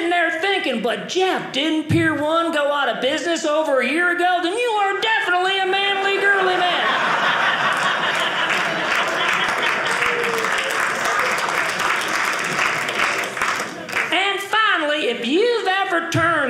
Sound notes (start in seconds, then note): 6.1 audience laughing; 9.3 audience clapping